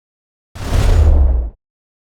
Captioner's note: whooshing